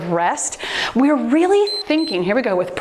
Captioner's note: timer beeps